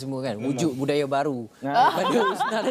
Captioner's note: laugh